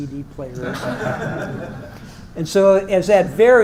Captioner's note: laugh